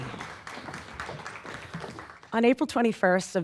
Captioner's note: audience applauding